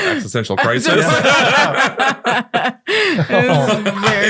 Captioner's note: all laughing